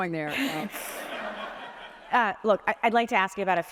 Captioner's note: audience laughs